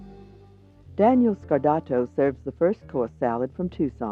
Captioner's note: gentle jazz music; voiceover